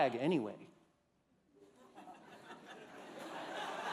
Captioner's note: laughter